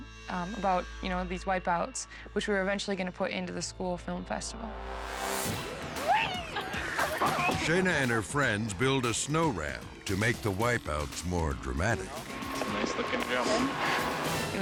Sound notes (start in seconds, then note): 4.9 ominious music; 5.8 laughing